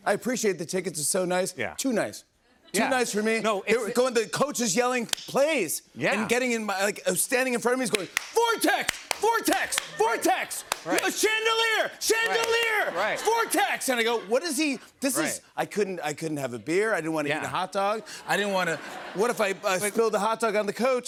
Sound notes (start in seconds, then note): 17.8 laughter